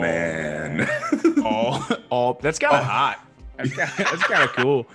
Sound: laugh

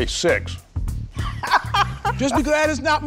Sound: laughs

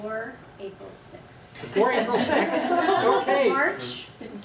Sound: laughter

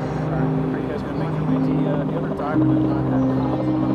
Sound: crew murmurs

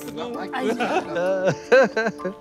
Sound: laughter

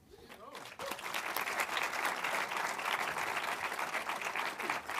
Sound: audience applauding

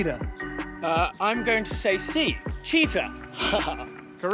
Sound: chuckles

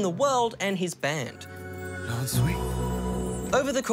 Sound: speaks foreign language

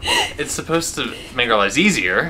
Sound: continues laughing

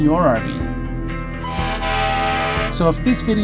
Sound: horn honking

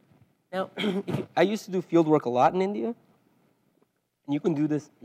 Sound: cough

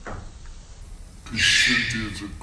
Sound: heavy breathing, shriek

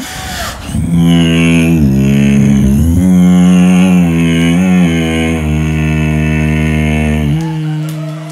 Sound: beatbox

